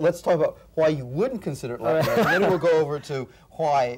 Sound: laughs

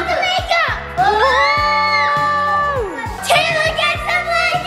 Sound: everyone cheers

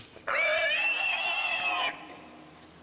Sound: screaming pig

